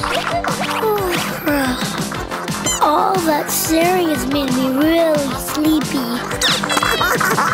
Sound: yawns

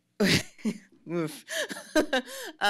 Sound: laughs

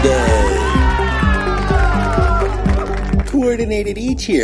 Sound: crowd cheers

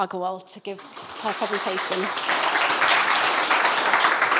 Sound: crowd applauds

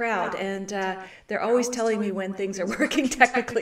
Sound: chuckles

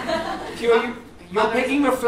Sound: German accent

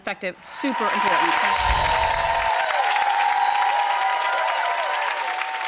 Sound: audience applauding

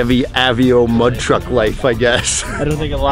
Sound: laughs

